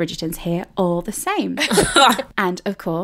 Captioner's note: laughing